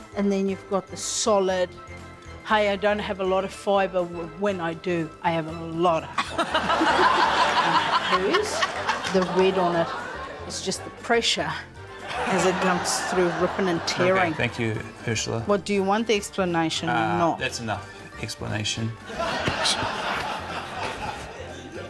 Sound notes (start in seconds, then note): 6.1 laughter